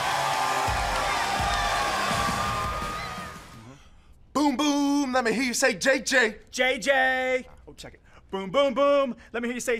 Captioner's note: cheers & applause